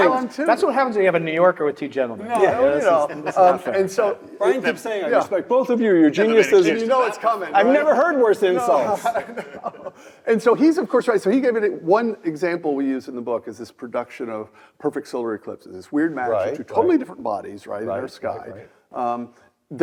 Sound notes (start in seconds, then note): 8.6 laugh